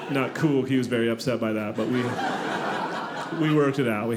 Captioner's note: audience laughing